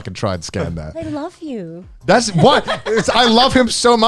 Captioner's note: laughs